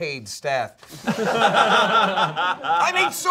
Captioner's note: all laughing